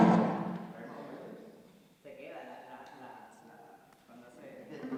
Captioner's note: non-english speech